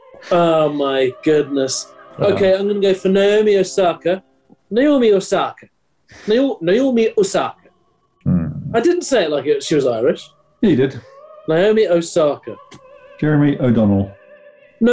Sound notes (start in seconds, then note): 4.6 bad irish accent